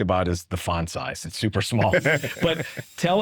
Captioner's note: chuckling